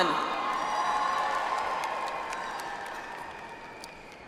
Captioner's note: audience applauds